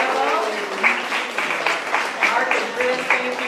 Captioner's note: applause